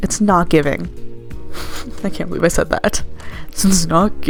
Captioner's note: giggle